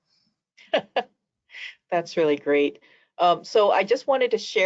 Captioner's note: laughs